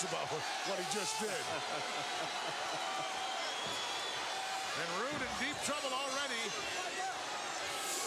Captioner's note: laugh